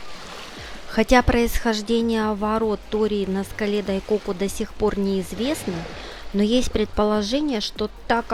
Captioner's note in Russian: закадровый голос